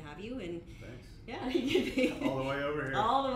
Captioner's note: laughs